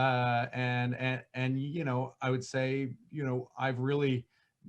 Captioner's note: stammering